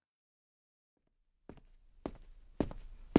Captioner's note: footsteps approaching